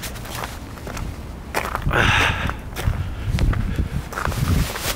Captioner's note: gravel crunching